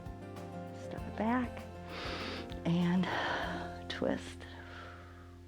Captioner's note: inhales and exhales